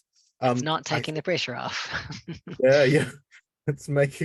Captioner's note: laughing